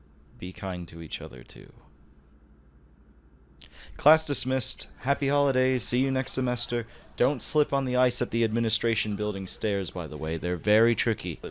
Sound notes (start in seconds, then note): 4.9 sound of students filing out